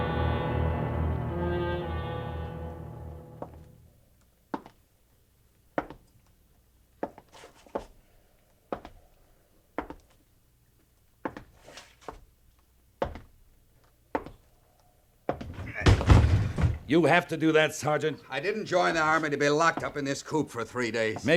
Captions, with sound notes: [tense music] [footsteps] You have to do that, Sergeant. I didn't join the Army to be locked up in this coop for three days.